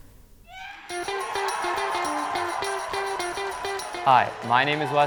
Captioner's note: audience cheer